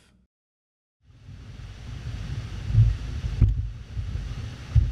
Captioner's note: water hissing